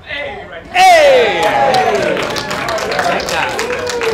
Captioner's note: applause